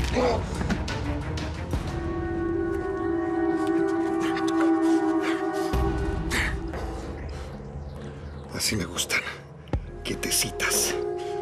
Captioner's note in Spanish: quejido